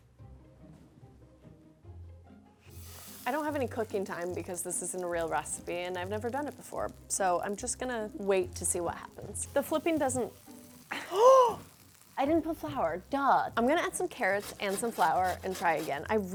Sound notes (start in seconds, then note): 11.5 gasps